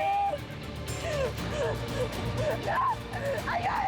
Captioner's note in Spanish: Sollozos